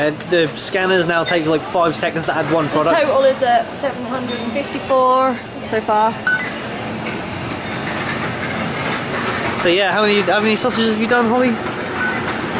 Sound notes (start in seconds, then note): 6.2 indicator sound; 11.8 indicator sound